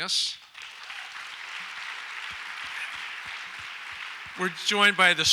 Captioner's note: audience applauds